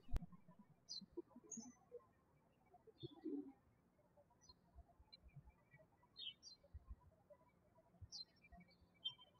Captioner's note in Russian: птички щебечут